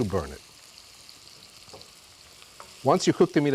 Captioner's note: sizzling